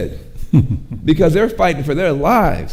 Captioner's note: chuckles